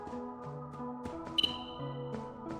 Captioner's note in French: musique angoissante; piaillement d'oiseau aigu